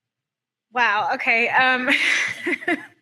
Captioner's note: laughs